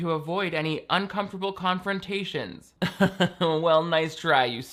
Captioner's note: chuckles